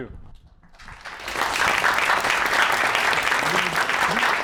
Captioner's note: applause